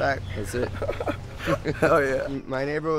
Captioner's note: laughing